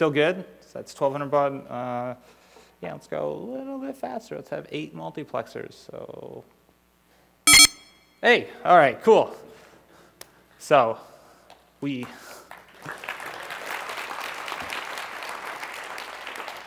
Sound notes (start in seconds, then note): 7.5 very fast modem shrieking; 11.9 applause